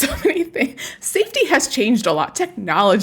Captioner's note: laughs